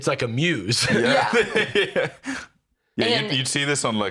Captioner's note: laughing